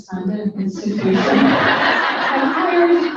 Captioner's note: audience laughs